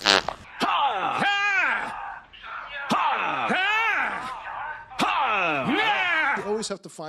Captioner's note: weird fart sex continues uninterrupted